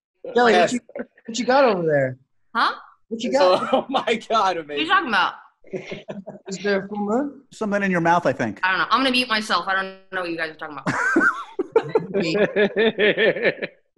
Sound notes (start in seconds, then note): 5.6 laughing; 10.8 laughing